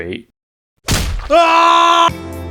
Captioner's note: pop